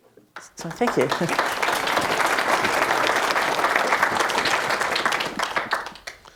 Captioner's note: applause